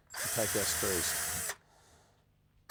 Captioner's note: whirring